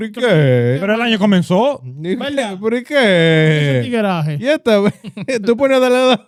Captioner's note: laughing; speaking In Foreign Language